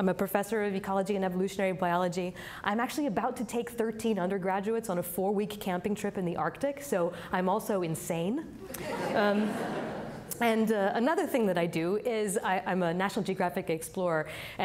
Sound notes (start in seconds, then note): 8.6 audience laughing